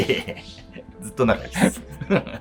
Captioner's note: laughing